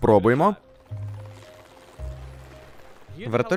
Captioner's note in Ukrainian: гурчання лопатей вертольота